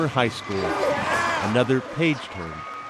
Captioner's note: cheers and applause